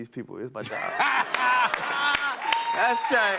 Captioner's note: laughs